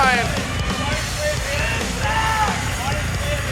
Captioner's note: crowd cheering